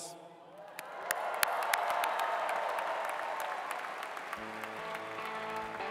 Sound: applause

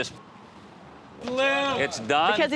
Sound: muted

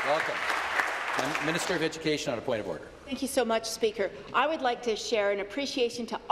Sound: applause

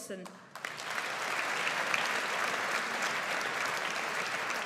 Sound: audience applauds

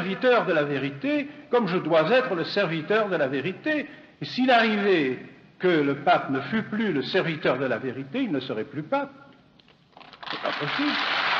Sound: applause

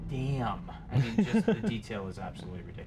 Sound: laughs

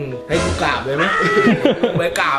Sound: chuckles

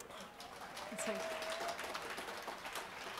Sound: applause

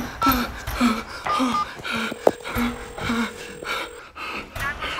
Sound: Chad breathing heavily; phone dialing

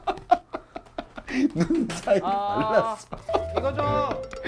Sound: laughing

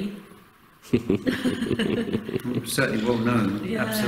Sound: laughing

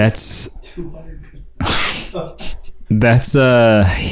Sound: laughing

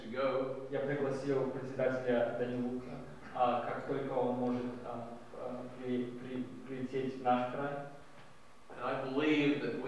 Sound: non-english speech

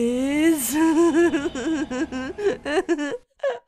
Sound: healthy giggling

